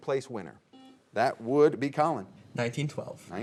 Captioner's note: buzzer beeping